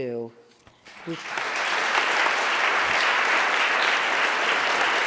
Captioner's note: audience applauding